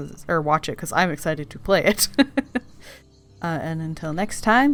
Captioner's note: laughs